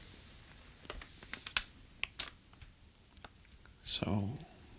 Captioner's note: envelope scrunches